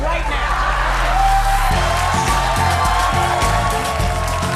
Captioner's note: audience cheering